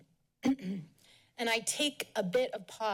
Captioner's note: clears throat